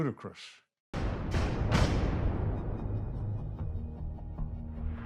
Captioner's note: dramatic banging; dramatic music